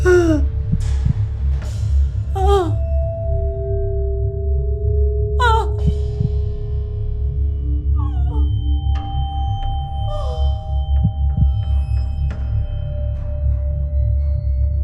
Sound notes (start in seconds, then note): 0.0 mother gasps; 0.2 mother moaning; 5.6 heart pounding; 12.2 tense music